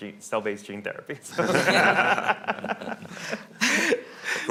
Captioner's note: laughing